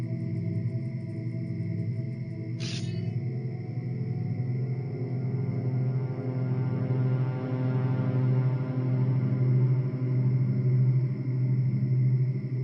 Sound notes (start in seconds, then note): 2.6 metallic whooshing